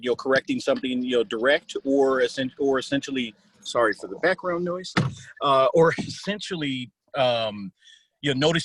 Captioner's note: static on phone